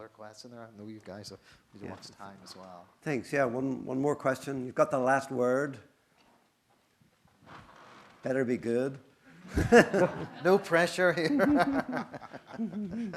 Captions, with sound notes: Is there one other question there? I know you guys have to watch time, as well. - Thanks. One more question. You've got the last word. It better be good. (audience laughing) - No pressure here. (laughs)